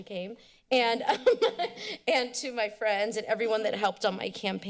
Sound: laughs

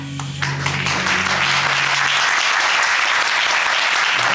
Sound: audience applauding

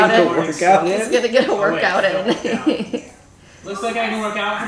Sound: laughing

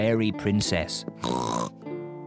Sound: oinks

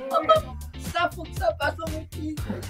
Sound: laughs

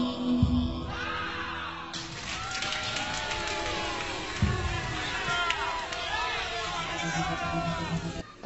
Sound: imaginary crowd applauding and cheering

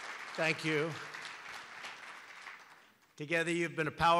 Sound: applause

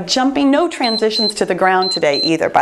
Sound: timer beeps

